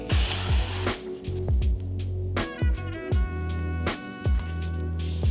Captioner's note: smooth music; materials shuffling